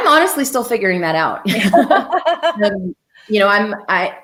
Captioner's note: laughter